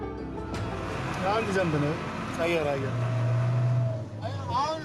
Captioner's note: speaking in foreign